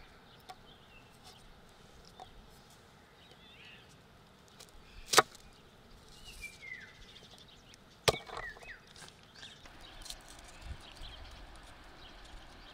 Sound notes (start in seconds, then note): 4.4 birds singing